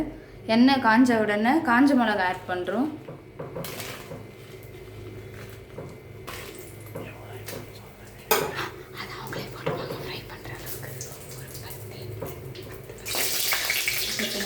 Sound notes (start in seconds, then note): 9.3 frying